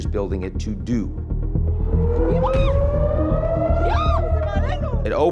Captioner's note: bystander shouting; siren wailing